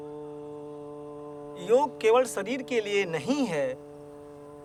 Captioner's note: speaking native language